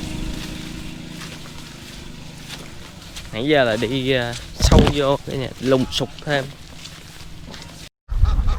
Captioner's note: nonstop whinning